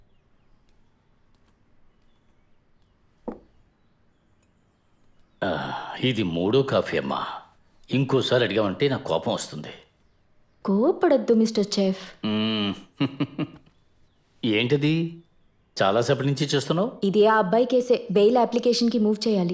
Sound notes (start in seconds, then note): 3.2 glass thuds; 5.4 sighs; 12.2 chuckles